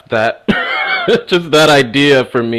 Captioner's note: laughs